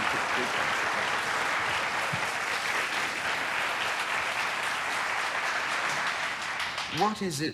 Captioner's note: applause continues